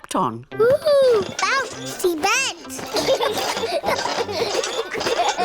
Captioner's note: children laugh